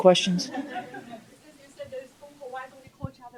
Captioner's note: laughter